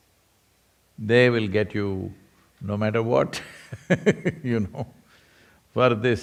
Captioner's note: laughs